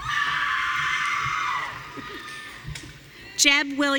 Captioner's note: audience cheering